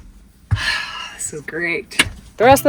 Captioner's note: sighs